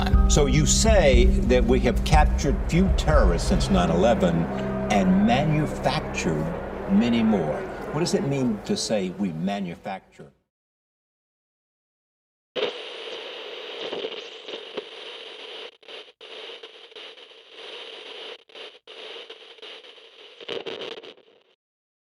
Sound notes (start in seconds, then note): 12.6 tv static and Glitch